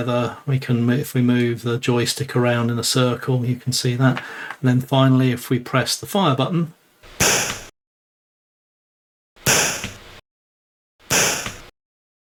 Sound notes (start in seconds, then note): 6.6 gunshot